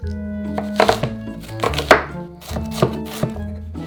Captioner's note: knife cutting